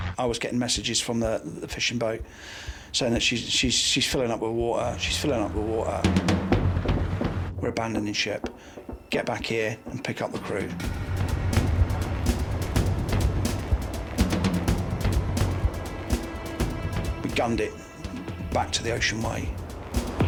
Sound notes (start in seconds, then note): 6.2 gentle upbeat music; 10.2 helicopter whirring; 11.1 gentle upbeat music